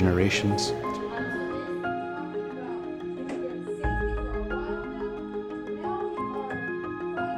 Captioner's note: people chattering; bright music